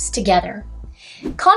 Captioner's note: swoosh